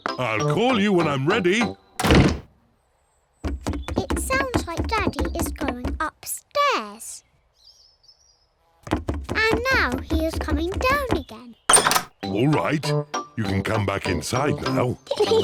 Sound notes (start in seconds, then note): 3.5 pounding trotters; 8.9 pounding trotters